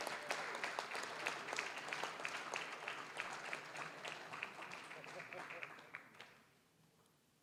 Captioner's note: applause, cheering; applause